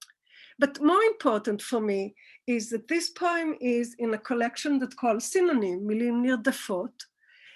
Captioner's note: Hebrew